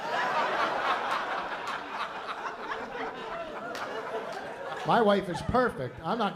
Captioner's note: laughter